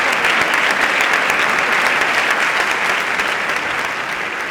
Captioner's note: applause